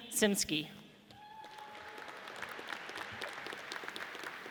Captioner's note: audience applauds